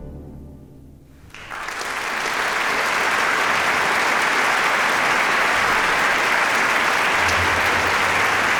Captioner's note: applause